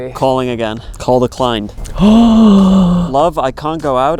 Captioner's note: gasps